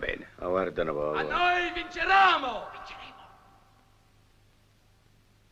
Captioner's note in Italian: sottovoce; sottovoce